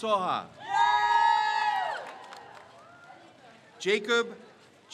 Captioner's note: crowd cheers